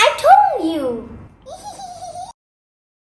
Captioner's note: giggling